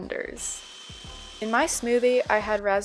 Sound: blending

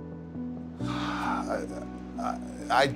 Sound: sighs

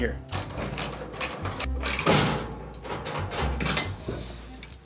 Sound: metal clanking

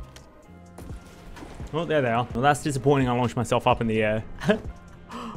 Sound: laughs

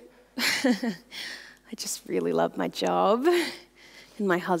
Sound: laughs

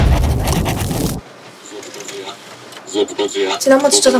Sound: the photocopier makes mystery noise

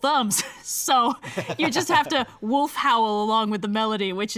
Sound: laughs

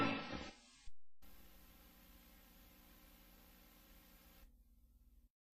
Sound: VHS static

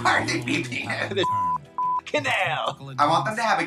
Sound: beep

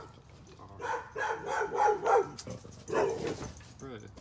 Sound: dog barking annoyingly and also rudely

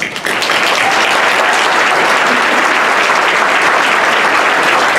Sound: audience applauding

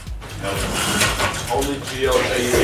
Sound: blinds slide up

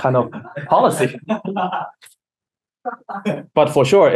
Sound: laughing

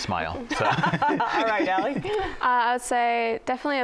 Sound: laughter

